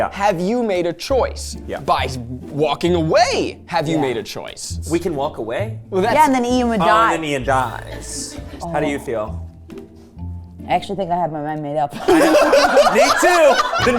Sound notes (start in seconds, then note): 9.6 light music; 12.0 everyone laughing